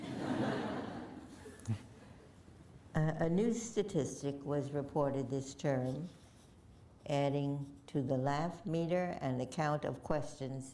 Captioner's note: laughter